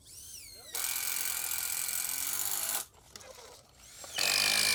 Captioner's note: drill grinding